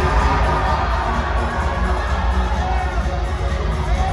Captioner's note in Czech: Potlesk